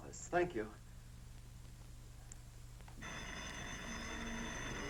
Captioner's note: phone rings